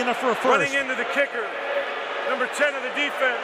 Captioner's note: booing